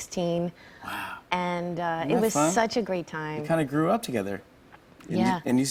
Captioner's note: none